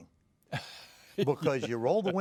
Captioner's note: laughs